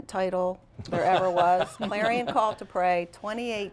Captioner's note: laughter